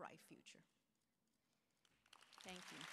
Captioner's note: applause